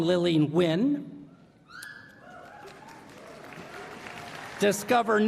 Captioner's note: applause